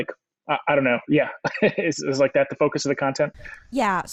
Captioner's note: laughs